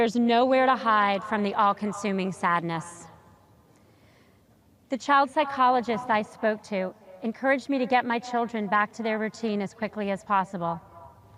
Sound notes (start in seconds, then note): none